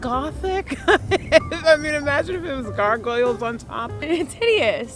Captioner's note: laughs